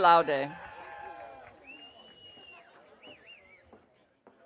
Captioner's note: audience cheering